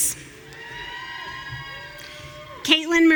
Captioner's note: audience cheering